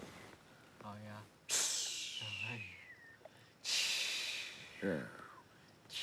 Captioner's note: jimmy hisses